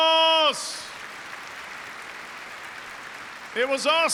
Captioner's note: applause